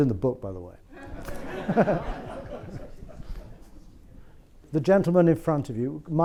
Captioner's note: audience laughs